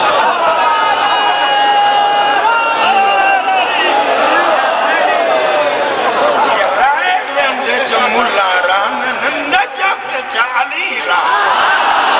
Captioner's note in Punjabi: ਤਾੜੀਆਂ